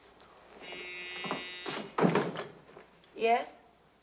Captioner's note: telephone rings